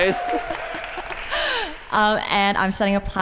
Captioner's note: applause